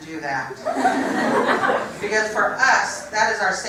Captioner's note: laugh